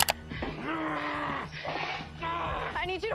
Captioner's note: grunting